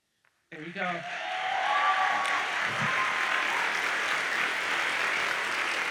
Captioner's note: audience cheers and applauds